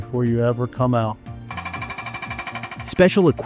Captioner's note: nat sound of jackhammer